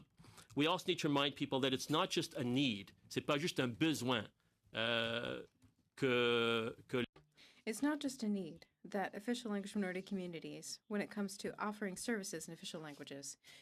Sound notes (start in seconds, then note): 8.3 speaking french